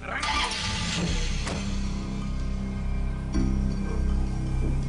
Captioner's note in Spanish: Sonido de la camioneta